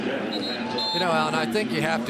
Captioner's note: whistle blows